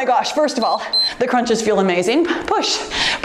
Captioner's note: timer beeps